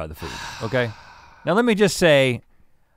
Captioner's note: Link sighs